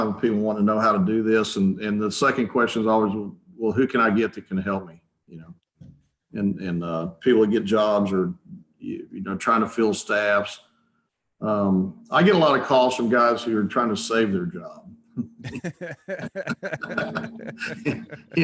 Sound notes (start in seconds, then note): 15.1 chuckles; 15.2 chuckling